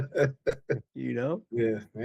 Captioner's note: laughing